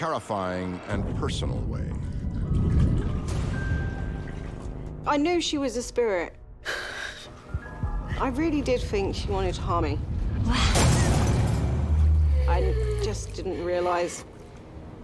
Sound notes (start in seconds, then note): 2.9 suspenseful; 10.7 gasps & shattering